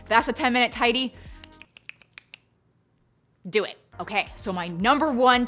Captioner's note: snaps fingers